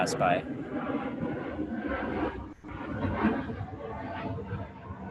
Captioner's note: plane engine roaring